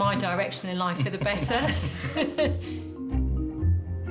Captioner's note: chuckling; playful music